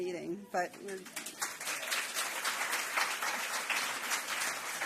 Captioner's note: applause